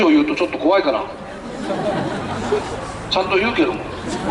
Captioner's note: laughter